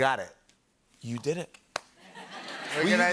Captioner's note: laughter